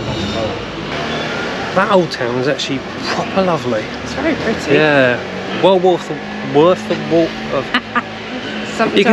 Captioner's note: laughter